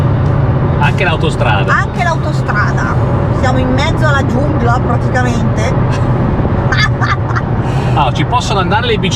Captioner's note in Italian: risata